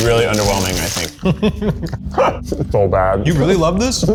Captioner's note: laughing